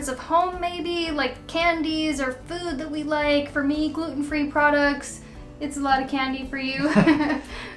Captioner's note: laughs